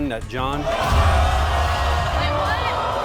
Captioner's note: yelling